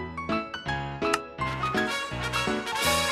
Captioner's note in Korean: 키보드 타자 치는 소리; 클릭음